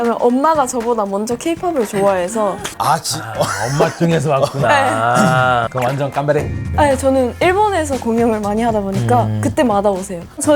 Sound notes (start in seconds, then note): 5.4 Cheering from Japan